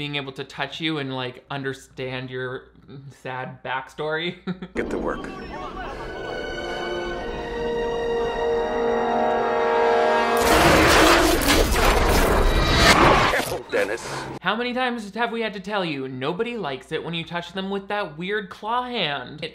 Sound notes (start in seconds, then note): 4.3 chuckles; 8.5 suspenseful music; 10.4 electricity whooshing